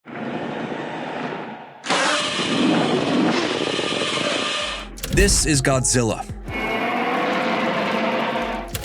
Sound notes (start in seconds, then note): 2.0 roaring; 6.4 roaring